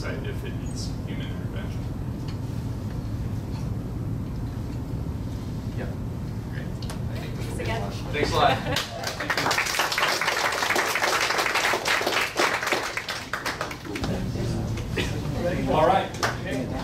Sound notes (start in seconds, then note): 8.4 laughing; 11.6 audience clapping